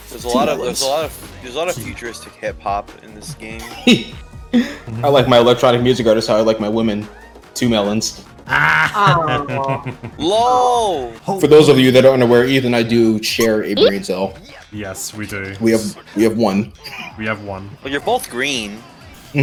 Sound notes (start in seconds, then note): 3.6 chuckles; 8.5 laughs